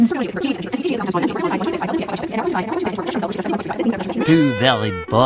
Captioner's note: voice screeching